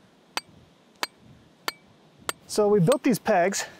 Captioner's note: metal clanging